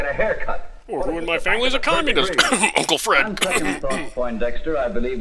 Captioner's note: cough